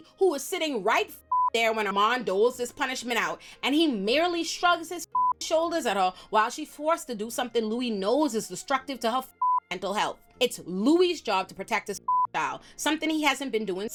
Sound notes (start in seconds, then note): 1.2 beep; 5.1 beep; 9.4 beep; 12.0 beep